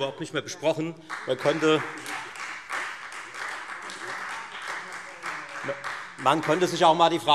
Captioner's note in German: Beifall Freie Demokraten